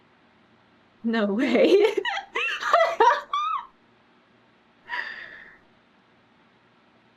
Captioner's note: laughs